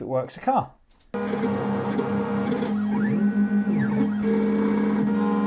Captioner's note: key clone machine whirls